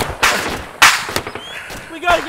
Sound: bullets whiz; heavy breathing

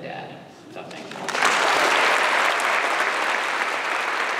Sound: applause

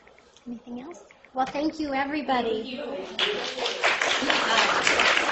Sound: applause

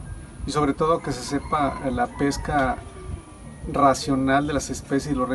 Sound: speaking Spanish

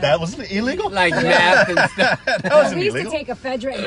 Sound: laughing

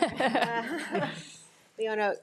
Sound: all laughing

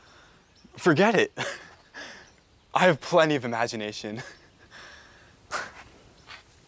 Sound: laughs

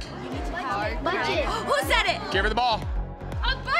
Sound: gasps

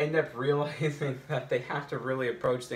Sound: chuckles

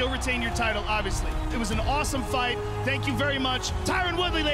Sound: cheering

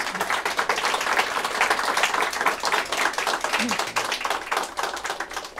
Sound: applause

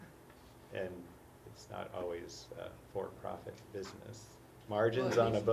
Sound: laugh

